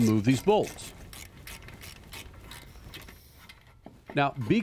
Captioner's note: wrench creaking